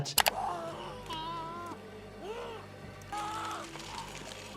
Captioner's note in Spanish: Dennis sigue gritando